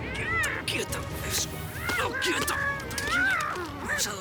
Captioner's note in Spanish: Gritos